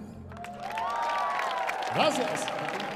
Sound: audience applauding

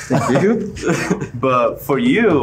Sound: men laughing

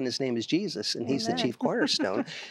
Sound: giggle

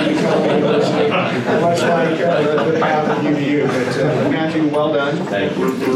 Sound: laughter

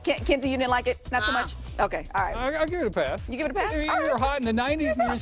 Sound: laughter

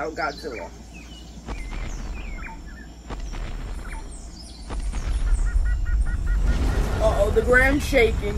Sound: birds chittering

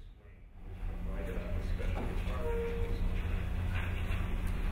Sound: speaking off mic

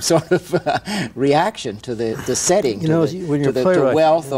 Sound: laughs

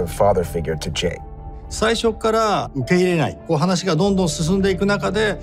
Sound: speaking in japanese

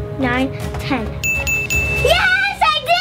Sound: ding ding ding

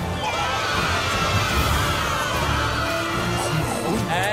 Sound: cheering

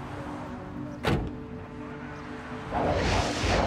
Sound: car door closes

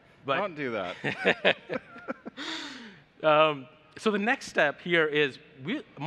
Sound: laughs

